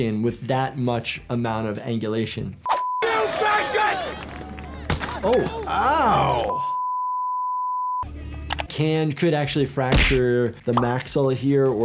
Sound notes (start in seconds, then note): 2.7 beep; 6.4 long beep